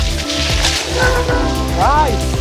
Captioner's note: leaves crunching; bike braking